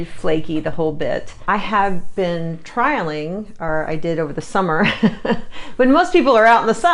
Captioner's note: laughs